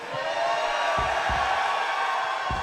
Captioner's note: crowd cheering